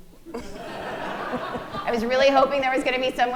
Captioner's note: audience laughing